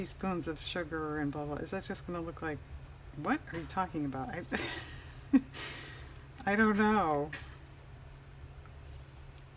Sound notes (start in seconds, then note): 4.5 laughs